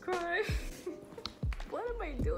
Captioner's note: giggles out of sillyness